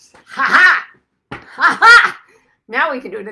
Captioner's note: laughs